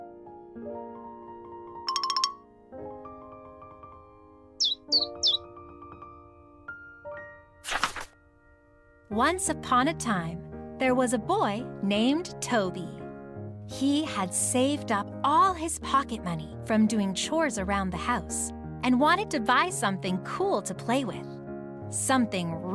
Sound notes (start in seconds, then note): 0.0 gentle piano music; 4.6 bird chirping; 7.6 paper crinkling